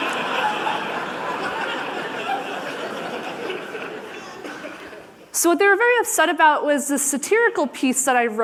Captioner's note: laughter